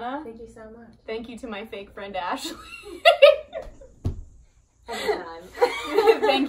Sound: laughs

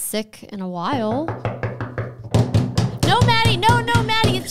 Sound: knocking on the table

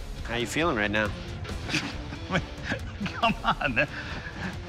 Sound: chuckles

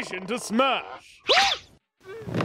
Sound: yelps

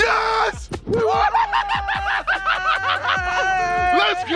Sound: JJ and VIK shouting

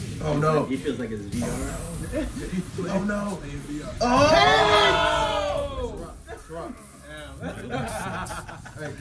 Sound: laugh

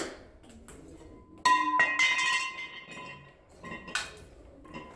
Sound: falling of steel baseball bat

